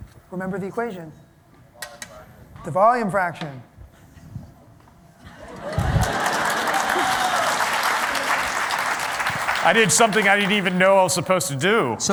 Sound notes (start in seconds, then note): 5.5 applause